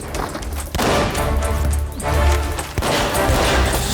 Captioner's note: guns firing